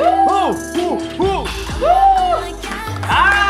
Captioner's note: sigh